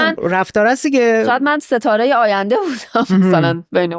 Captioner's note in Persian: خنده